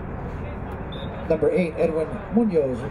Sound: whistle blowing

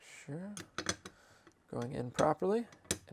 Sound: metal clanking

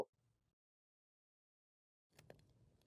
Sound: silence

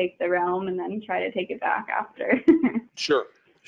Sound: chuckling

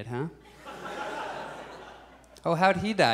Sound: audience laughs

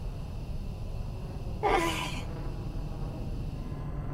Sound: sighs

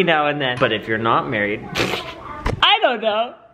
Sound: laughs

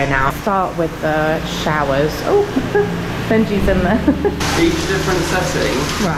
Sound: giggling

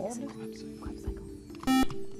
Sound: whispering; buzzer

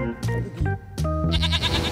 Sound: bleats

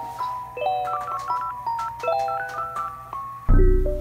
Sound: phone dialing; mellow music

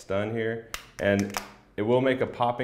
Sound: plastic popping, snapping

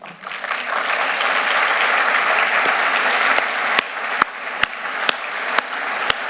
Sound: applause

